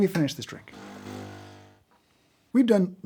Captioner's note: coffee machine hums